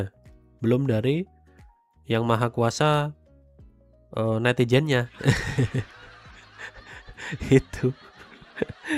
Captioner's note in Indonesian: tertawa